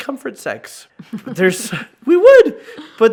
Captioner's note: laughs